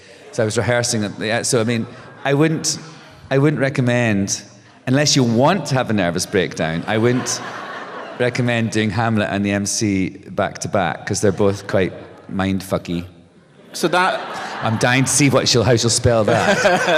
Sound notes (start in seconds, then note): 6.7 laughter; 13.4 laughter